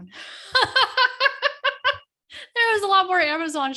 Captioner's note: laughing